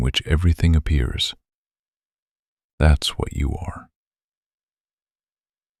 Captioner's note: short pause